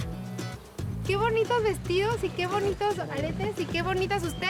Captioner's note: speaking Spanish